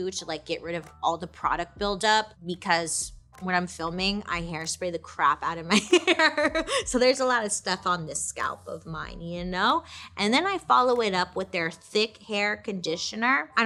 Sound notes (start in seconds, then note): 6.5 laughs